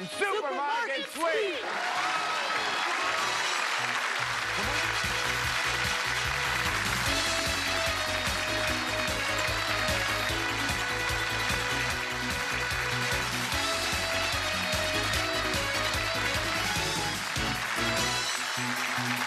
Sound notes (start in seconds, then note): 2.1 cheers and applause; 9.1 exciting music